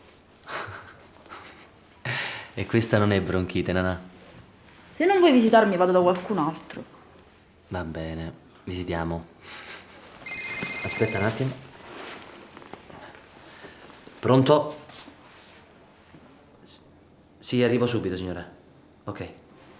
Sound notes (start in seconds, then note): 0.5 Stefano laughs; 9.4 laughs; 10.2 cellphone rings